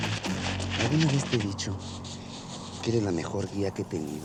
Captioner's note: speaking spanish